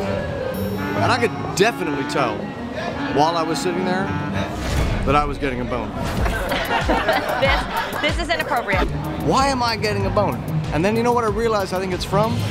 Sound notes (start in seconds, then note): 8.5 laughter